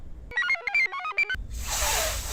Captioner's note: computer chirps